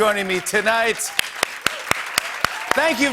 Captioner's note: cheers and applause